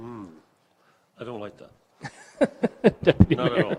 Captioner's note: chuckles